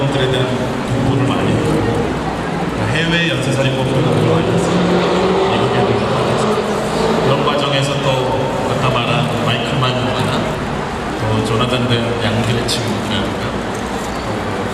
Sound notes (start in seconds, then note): 1.0 speaking Korean